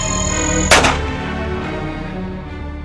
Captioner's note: gun Shot